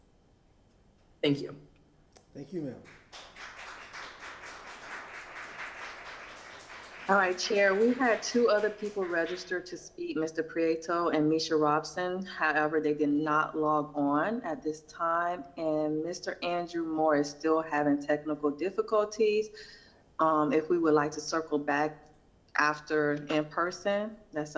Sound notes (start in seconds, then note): 9.1 applause